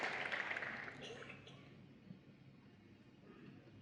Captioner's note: applause